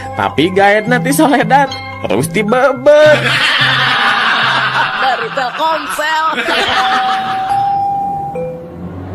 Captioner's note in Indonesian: tertawa